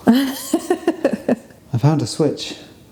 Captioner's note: laughing